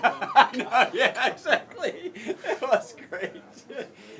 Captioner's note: laugh